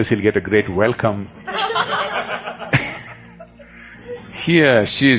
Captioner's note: laughter